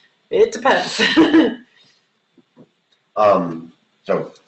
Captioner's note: laughs